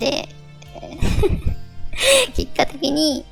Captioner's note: laugh